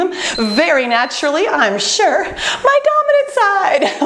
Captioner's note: beeping